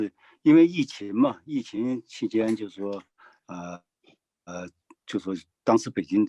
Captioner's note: speaking in foreign language